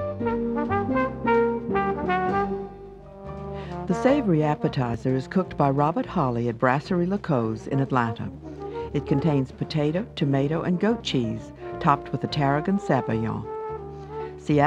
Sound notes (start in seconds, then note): 0.1 up-tempo jazz music; 3.7 voiceover